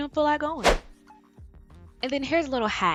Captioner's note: air whooshing